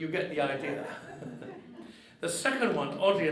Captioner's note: audience laughing